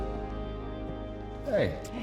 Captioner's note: footsteps